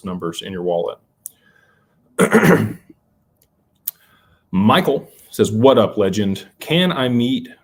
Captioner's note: cough and clears throat